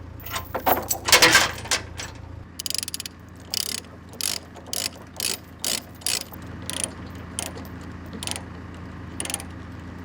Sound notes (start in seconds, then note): 2.6 device clicking